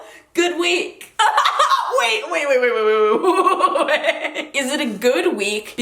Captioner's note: laughs loudly